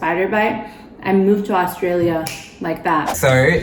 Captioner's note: snaps